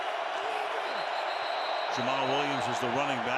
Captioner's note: whistle